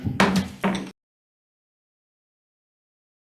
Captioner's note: gavel pounds